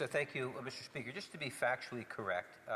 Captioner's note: speaking French